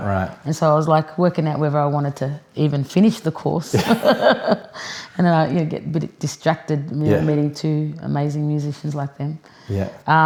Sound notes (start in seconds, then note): 3.8 laughs